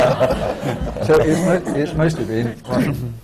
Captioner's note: laughter